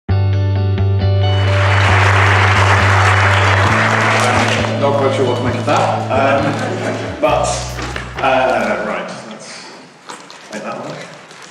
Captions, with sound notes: (ethereal music) (applause) - Not quite sure what to make of that, and, but, ah, right, that's, might that work?